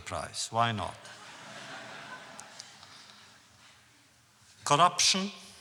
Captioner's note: audience laughs